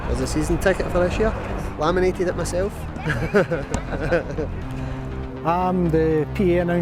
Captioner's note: chuckles